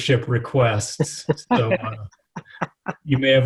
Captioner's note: laughing